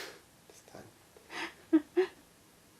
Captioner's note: laughs